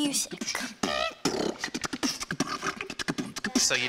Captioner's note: beatboxing